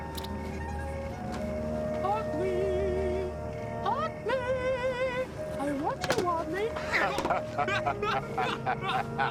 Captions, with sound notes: - (high pitched voice) Otli. Otli. I want you, Otli. (laughing)